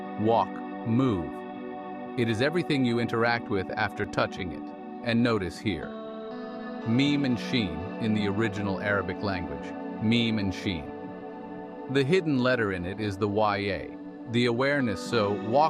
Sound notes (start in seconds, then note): 7.6 in the original Arabic language